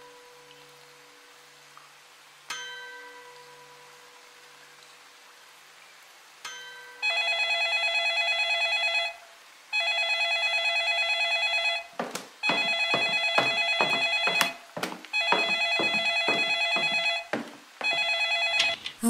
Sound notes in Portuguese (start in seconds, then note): 7.0 O telefone toca e Jéssica caminha até a sala para atender